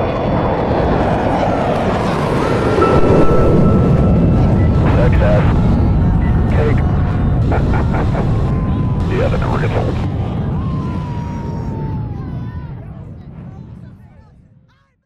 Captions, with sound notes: SUCCESS! Cake! [Laughing] -Yeah that never gets old.